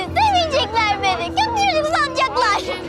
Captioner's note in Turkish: Ağlıyor